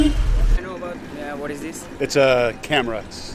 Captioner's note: kids talking